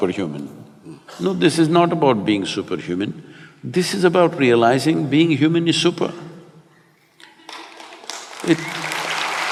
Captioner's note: applause